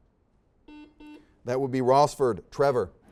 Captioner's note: series of beeps